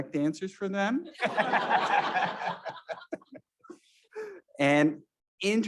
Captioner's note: all laughing